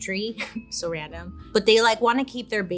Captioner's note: chuckles